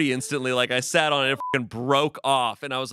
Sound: beep

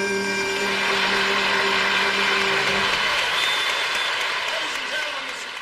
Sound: applause

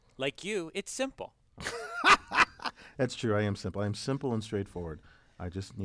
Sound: laugh

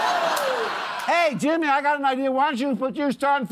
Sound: laughter

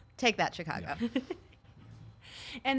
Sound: giggles

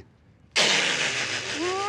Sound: laughing

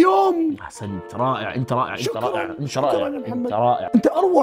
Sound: shouts

